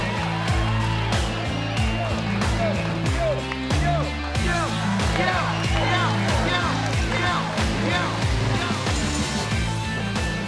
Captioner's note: crowd goads wrestlers